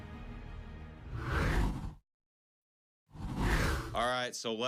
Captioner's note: air whooshes